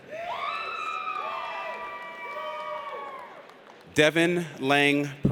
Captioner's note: audience cheers